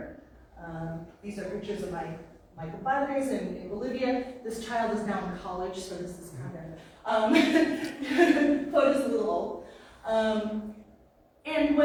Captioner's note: laughs